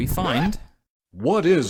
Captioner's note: record scratch